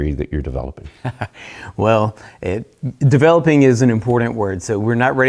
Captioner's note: chuckling